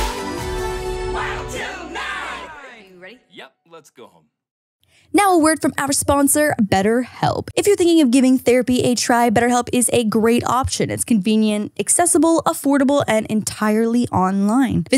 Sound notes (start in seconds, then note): 1.0 crowd